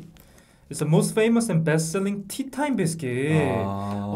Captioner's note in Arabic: لكنة كورية